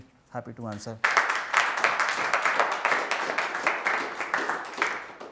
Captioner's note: audience applauding